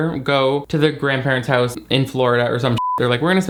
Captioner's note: beep